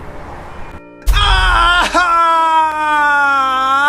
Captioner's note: happy screaming